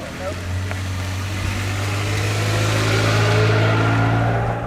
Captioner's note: car speeding off